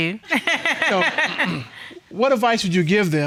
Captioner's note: laughing